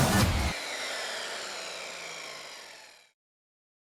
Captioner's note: saw revving